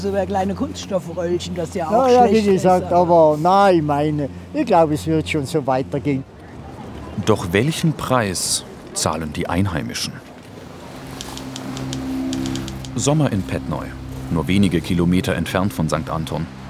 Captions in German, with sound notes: Vielleicht über kleine Kunststoffröllchen. Aber ich glaube, es wird schon so weitergehen. Doch welchen Preis zahlen die Einheimischen? (Schreibmaschinengeräusche, düstere Musik) Sommer in Pettneu, nur wenige Kilometer entfernt von St. Anton.